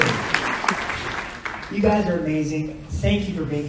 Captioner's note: audience applauds